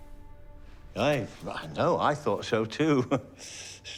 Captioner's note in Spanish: risas